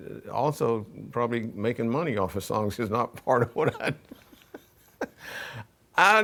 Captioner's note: laughs